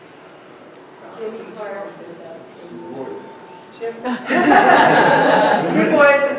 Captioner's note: audience laughing